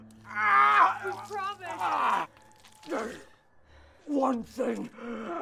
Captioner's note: Prefect Lukon groans